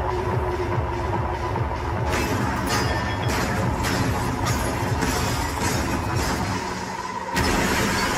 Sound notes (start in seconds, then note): 2.2 pickaxe clanking